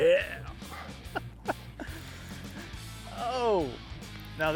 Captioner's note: laughs